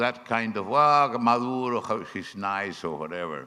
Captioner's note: speaking foreign language